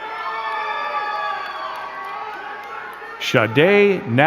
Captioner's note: crowd cheering and clapping